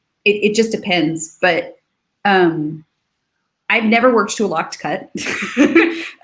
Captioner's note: laughs